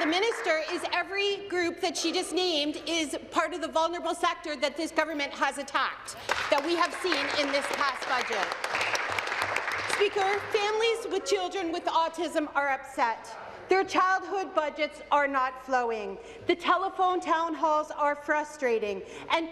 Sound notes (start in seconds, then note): 0.0 applause; 12.0 applause